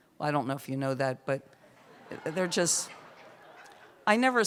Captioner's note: laughter